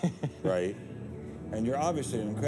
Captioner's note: laughs